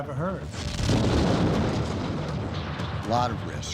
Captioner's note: rocket engines ignite